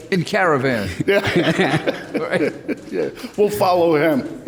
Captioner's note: laughing